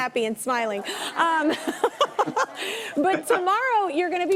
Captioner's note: audience laughing